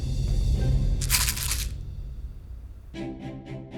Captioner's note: container rattles; bright gentle music